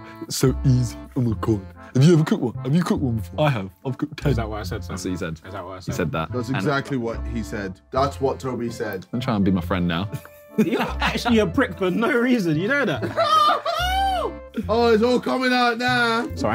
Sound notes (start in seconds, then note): 12.9 laughing